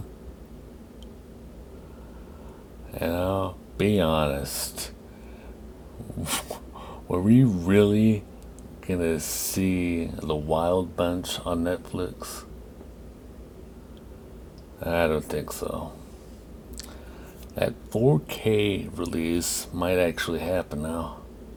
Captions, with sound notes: Ya know, be honest: (Chuckles, exhales) Were we really gonna see The Wild Bunch on Netflix? I don't think so. That 4K release might actually happen now.